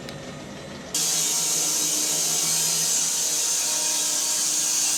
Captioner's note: saw buzzes